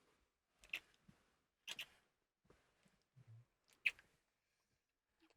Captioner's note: kissing